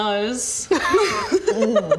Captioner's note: giggles